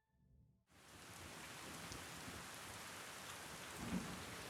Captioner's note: rain pattering